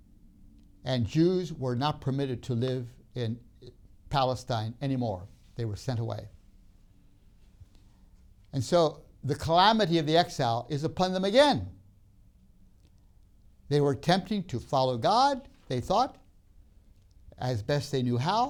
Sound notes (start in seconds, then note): none